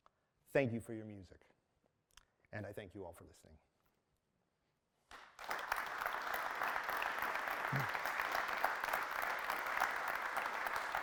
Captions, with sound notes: Thank you for your music, and I thank you all for listening. [APPLAUSE]